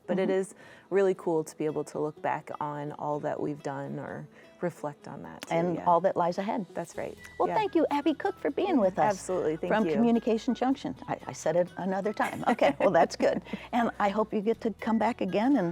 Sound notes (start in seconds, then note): 12.2 laughs